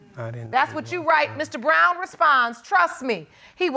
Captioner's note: quietly